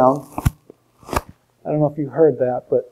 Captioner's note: popping